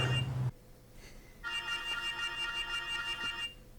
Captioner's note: phone continues to ring